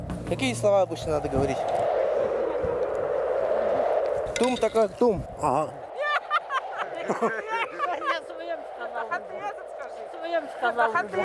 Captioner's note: they tell a joke and laugh